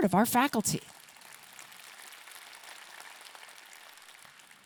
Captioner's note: audience clapping